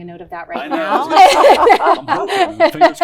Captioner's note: laughter